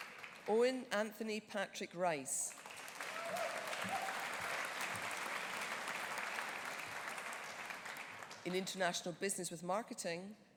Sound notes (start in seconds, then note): 2.5 audience applauding